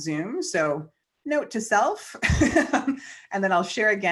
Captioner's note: chuckles